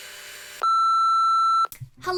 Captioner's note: beep